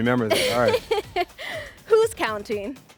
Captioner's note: laughs